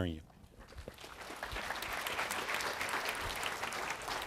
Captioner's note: applause